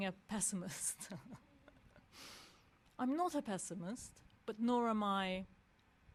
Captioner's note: laugh